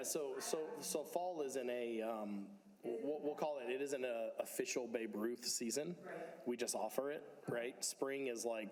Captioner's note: speakers off mic